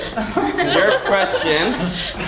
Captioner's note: laugh